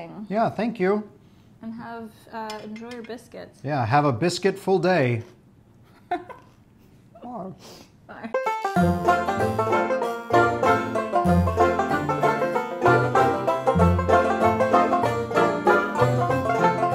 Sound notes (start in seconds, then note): 5.9 laughs; 8.3 country music